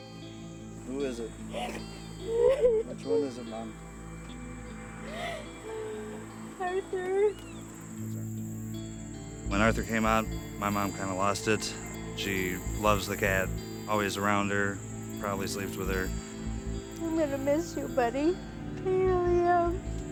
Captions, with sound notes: Who is it? [sobbing] Which one is it, Mom? Arthur. When Arthur came out, my mom kind of lost it. She loves the cat, always around her, probably sleeps with her. I'm going to miss you, buddy. I really am.